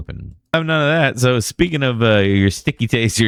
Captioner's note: uh